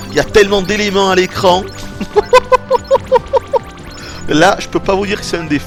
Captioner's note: laughs